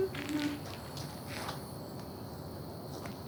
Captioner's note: humming